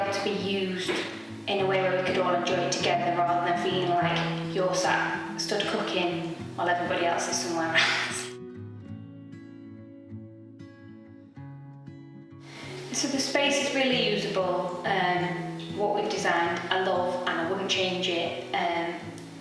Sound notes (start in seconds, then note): 7.7 laughs